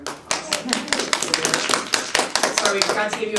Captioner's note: audience applauds